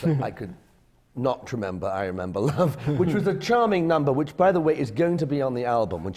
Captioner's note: laughs